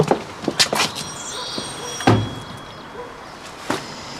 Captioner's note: doorbell ringing